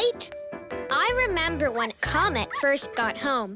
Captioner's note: dog barking